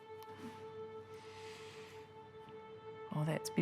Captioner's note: inhales